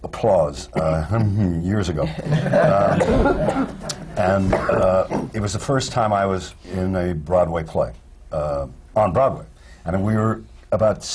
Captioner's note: laughter